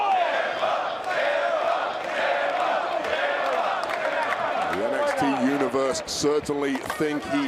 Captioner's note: crowd chants "ciampa"